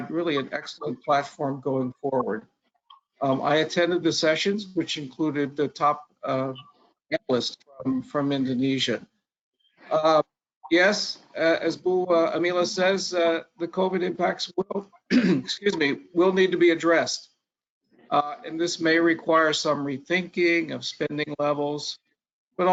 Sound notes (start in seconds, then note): 15.0 clears throat